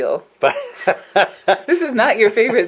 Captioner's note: laughs